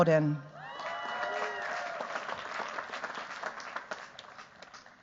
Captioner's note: cheers, applause